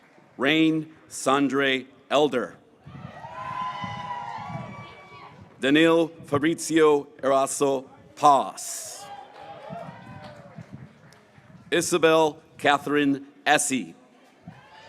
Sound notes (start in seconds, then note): 2.8 graduates cheering; 11.9 graduates cheering